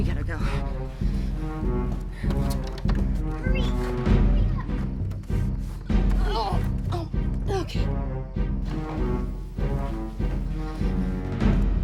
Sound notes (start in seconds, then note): 1.1 tense music; 7.4 Julia grunting; 9.0 tense music